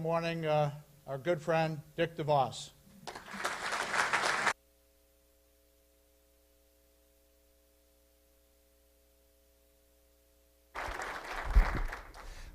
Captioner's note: applause